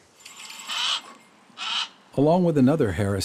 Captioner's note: hawk calls